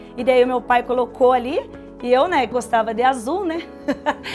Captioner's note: laughter